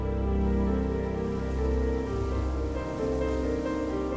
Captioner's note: wind whistling